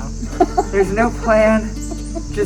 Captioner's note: laughing